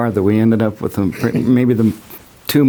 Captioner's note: laughs